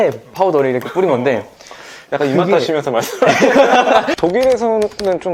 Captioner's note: smacking lips